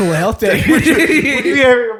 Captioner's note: laughs